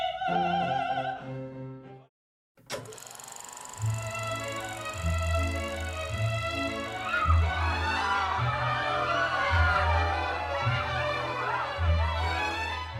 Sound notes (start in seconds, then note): 4.0 bouncy orchestral music; 6.9 screaming